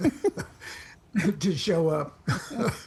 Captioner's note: laughs